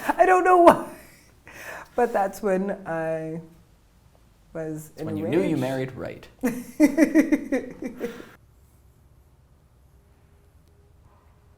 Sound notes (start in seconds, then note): 6.4 laughter